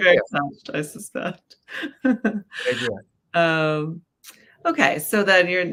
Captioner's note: chuckles